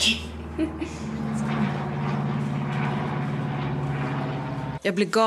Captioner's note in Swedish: Ett propellerplan hörs